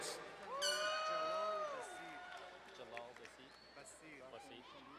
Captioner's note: horn blowing, crowd cheering